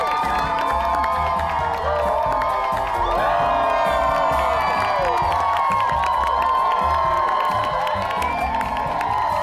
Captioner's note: crowd cheers, claps